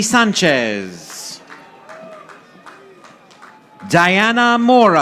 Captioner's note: audience applauding